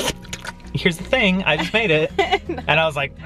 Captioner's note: slurping sounds